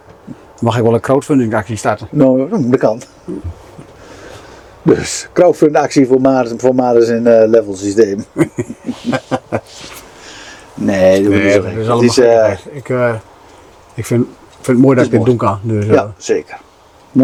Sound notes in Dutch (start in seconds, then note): 8.2 gelach